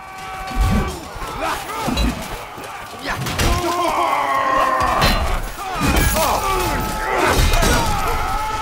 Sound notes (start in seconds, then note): 0.4 soldiers shouting; 3.6 groaning; 5.9 weapons clanging